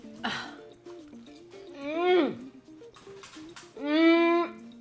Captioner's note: person groaning